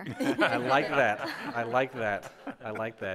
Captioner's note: members laugh